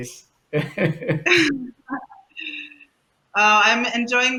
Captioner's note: laughter